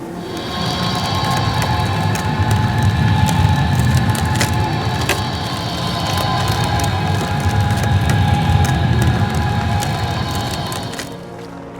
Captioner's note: magical humming, wood creaking